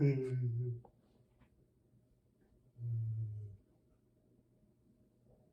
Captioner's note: Chuck giggles creepily